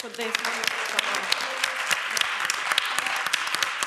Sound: applause

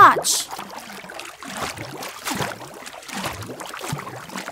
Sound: water splashing, gurgling

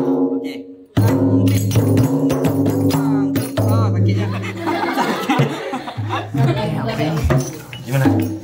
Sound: beating drum; laugh

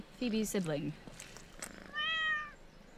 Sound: meows

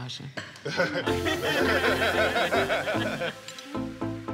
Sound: laughter

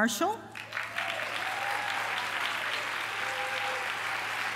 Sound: applause

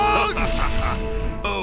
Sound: judas laughs

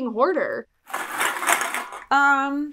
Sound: cans rattling

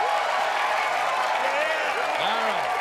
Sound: cheers and applause

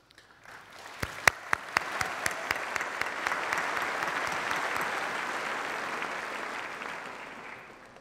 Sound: applause

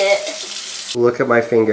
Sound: faucet running

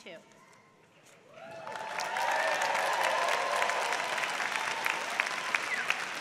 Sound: applause

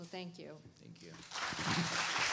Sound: applause

